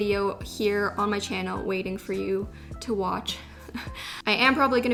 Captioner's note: chuckle